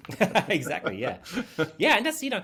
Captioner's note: laughing